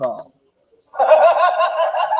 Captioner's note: laughter